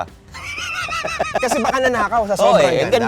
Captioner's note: laughs